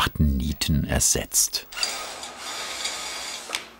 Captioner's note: cordless screwdriver whirs